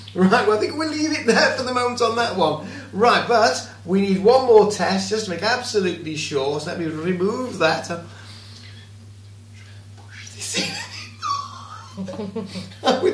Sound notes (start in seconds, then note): 8.5 whispering